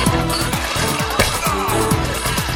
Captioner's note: groaning